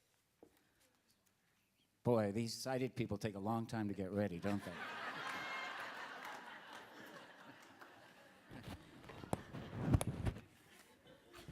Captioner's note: laughter